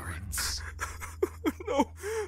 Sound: sobbing

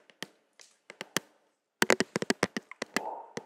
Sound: tapping

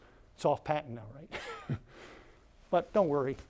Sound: laughter

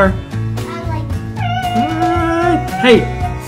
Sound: mimicking brake squeal

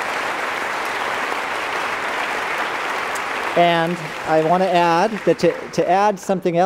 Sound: applause

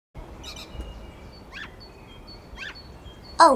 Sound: birdsong

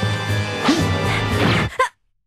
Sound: piercing stab

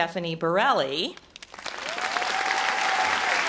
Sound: audience applause

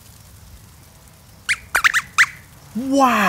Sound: squeaks squeaks

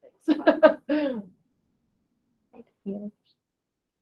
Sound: person laughing

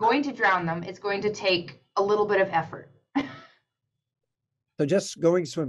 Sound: laughs

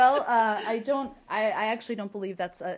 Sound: laughter

